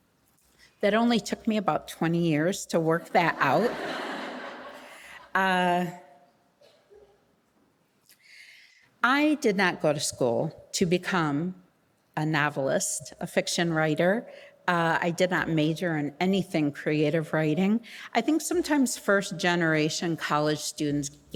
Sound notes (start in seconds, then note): 3.3 audience laughing